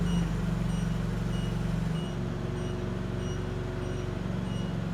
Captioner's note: forklift beeps